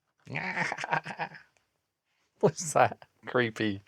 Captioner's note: laughter